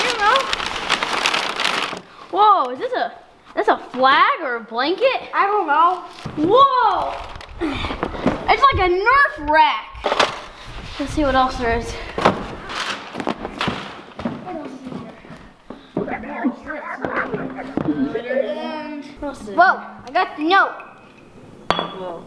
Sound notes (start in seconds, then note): 13.3 sliding noise; 15.8 boys mumbling; 15.9 weird alien noises